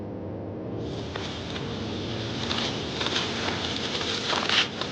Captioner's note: rocks crumbling